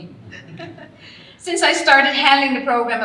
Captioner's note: all laughing